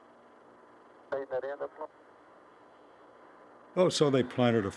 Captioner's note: people talking on radio